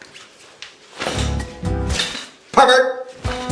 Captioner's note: curtain sliding; brush clatters